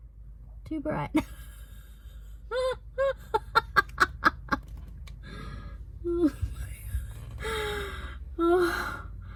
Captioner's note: cackles madly